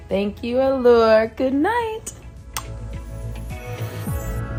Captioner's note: lips smacking; gentle music